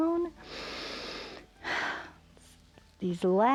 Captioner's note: inhales and exhales